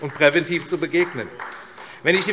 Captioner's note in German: Beifall AfD